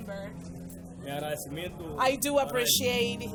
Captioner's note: speaks in foreign language